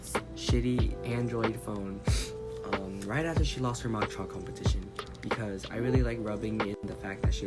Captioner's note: sniffles